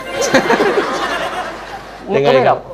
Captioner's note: laughing